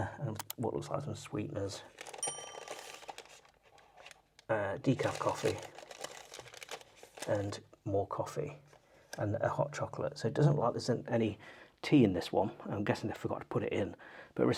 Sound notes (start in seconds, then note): 2.2 bell dinging